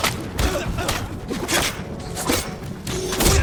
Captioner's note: grunting; grunting